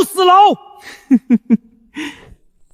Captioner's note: chuckles